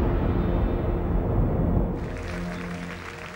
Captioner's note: rapid tense orchestral music; thunder rumbling; guests applauding; background harpsichord music